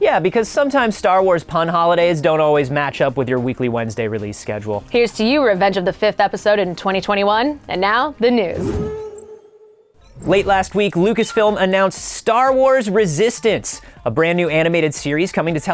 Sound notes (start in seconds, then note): none